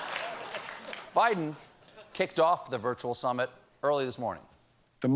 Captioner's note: laughter